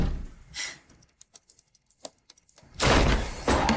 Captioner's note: door slams